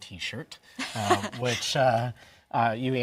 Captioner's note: laughs